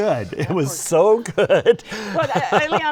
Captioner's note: laughs